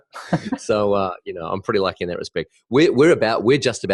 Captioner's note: laugh